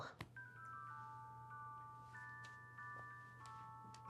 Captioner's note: ringtone ringing